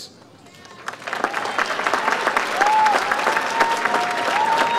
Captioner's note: audience applauds